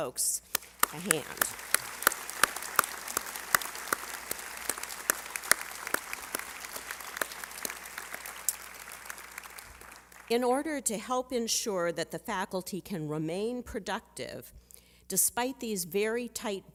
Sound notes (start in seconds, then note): 7.0 applause